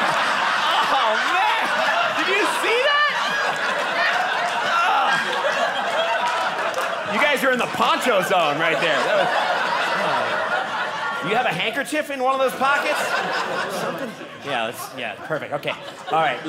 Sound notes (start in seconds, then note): 3.0 audience applauding; 9.0 audience laughing; 13.3 audience laughing